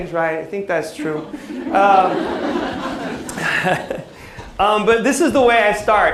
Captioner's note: laughter